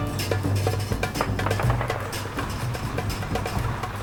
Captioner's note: gun firing in distance